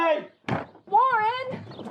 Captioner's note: door slams